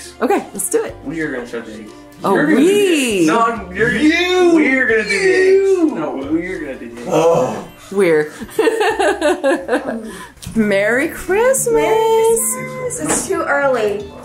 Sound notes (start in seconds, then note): 7.0 sighs loudly; 8.4 chuckles